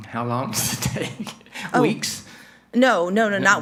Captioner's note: chuckles